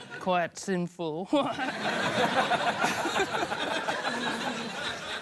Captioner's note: laughter